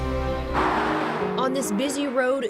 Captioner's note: cars passing